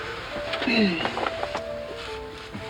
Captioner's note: clears throat